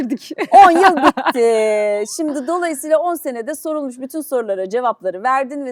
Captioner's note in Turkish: kahkaha